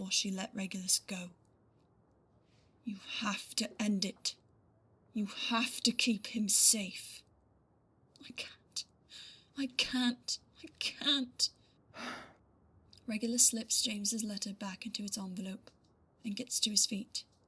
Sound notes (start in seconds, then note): 11.9 Regulus sighs